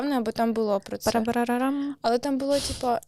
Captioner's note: imitates the sound of the drums